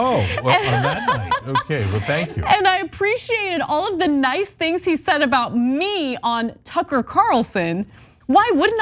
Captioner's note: laugh